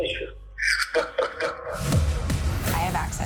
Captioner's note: laughs